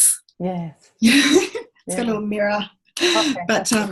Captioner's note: laughs